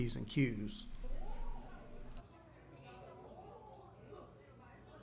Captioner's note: crowd noise